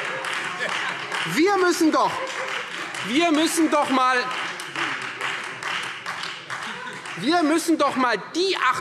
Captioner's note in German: Beifall Freie Demokraten - Zurufe DIE LINKE